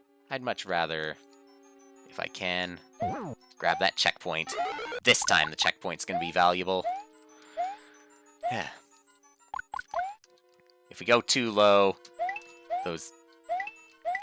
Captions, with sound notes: ...I'd much rather... ...if I can, grab that checkpoint. This time, the checkpoint's gonna be valuable. (*breathing*) If we go too low...those-